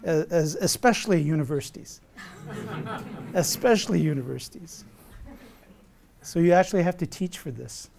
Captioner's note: laughter